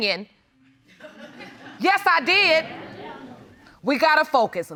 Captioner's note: crowd laughs